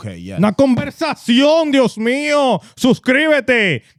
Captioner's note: speaking Spanish